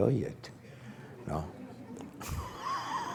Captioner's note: laughter